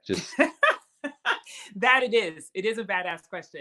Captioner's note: laugh